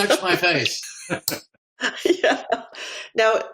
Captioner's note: laugh